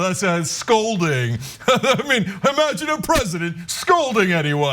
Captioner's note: laugh